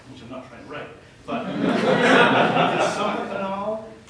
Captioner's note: laughter